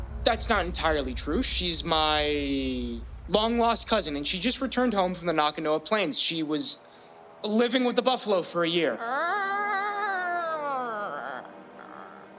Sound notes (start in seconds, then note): 9.0 making buffalo noises